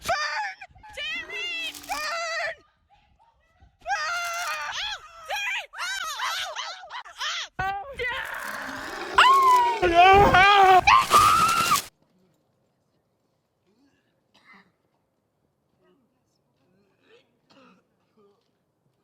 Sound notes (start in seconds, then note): 8.0 yelling; 8.0 Jones howling. Grady yelling